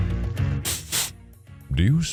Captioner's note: sniffing